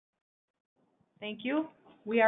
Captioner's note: silence